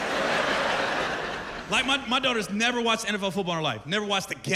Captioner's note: laughter